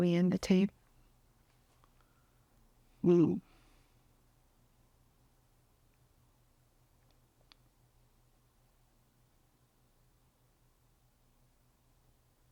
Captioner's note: pauses 35 seconds